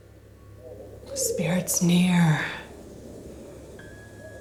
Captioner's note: air whooshing; air whooshing fades; gentle tense music